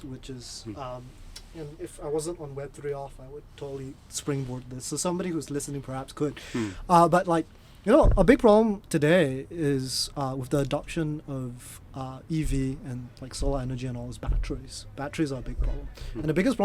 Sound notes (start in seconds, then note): none